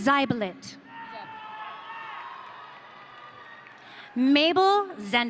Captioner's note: audience cheering